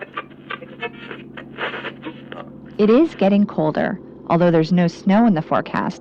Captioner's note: radio sound